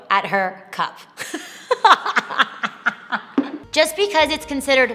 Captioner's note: laughing